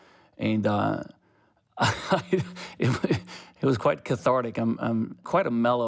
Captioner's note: laughter